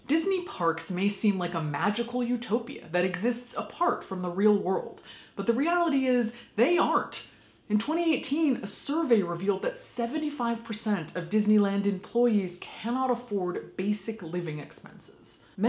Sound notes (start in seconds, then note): none